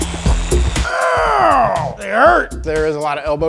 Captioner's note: grunting